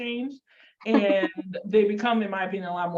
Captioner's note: laughs